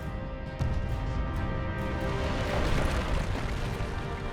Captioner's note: lava exploding